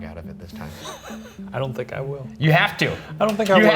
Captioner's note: laughs